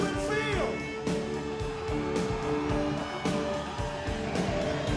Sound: crowd cheering

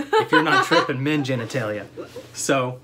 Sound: laughter

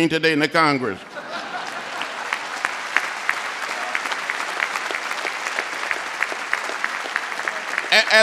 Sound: laughter, applause

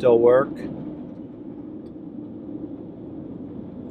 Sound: train roaring

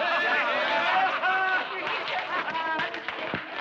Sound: men laughing

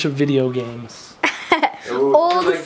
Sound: laughs

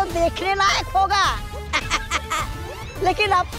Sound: giggles

